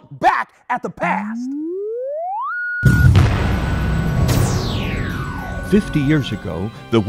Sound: sound Effects

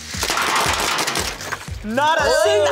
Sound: cars clattering

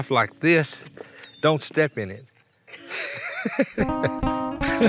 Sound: laughs

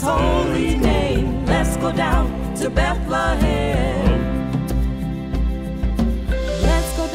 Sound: humm; humm

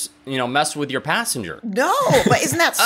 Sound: laughs

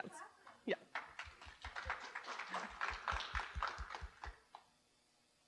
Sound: audience applauding

